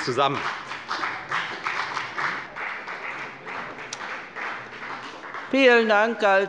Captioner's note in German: Beifall bei der FDP